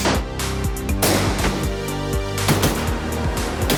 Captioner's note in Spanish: Disparos